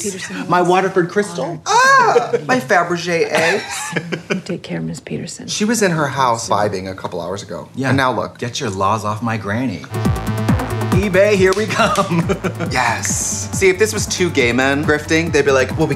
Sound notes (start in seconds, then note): 3.3 laughing; 9.9 techno music